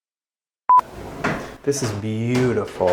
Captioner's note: beep